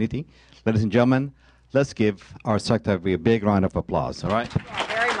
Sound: applause

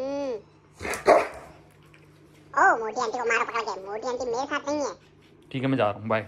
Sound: Roxy barks

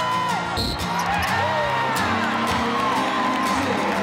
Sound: cheers and applause

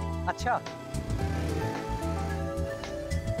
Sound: vehicles passing

